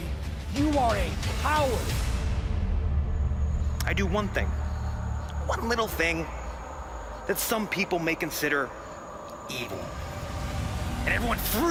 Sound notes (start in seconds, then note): none